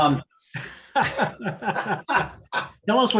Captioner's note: laughter